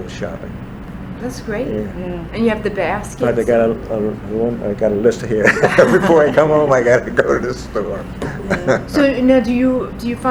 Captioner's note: all laugh